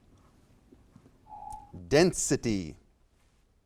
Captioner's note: alarm echoes